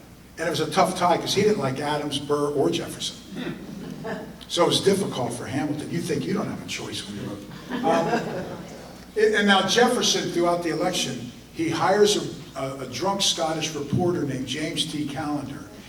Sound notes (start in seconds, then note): 7.4 audience laughter